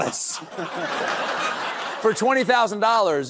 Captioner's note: audience laughing